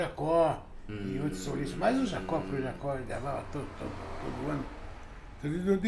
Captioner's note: hums a song